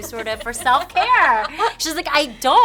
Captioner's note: laughing